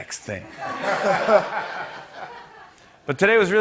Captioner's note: laughter